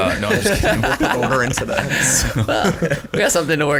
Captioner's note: laughing drowns out speaking